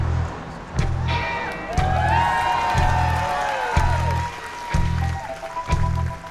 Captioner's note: audience cheers